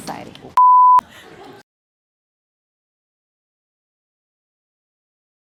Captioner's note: beep; laughing